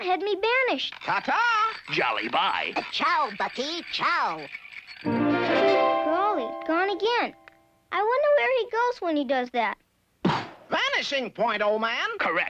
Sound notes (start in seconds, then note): 4.4 chiming music; 10.2 poofs